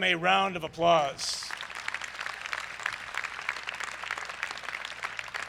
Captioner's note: crowd applauds